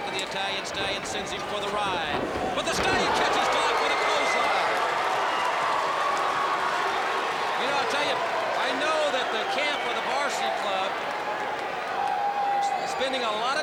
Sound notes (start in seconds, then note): 4.3 crowd cheering